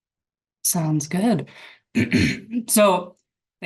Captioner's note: clears throat